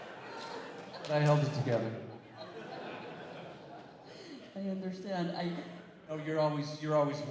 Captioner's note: laughter